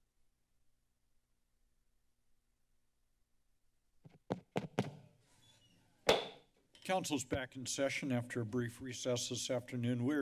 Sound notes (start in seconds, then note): 0.0 silence; 4.4 mic tapping; 6.1 hits gavel